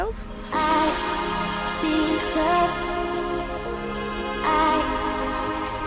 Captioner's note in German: murmelt